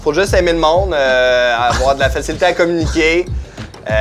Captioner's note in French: Petit rire